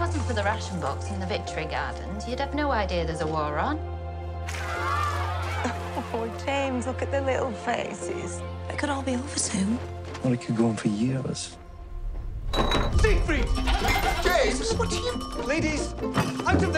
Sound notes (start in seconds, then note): 4.4 children cheer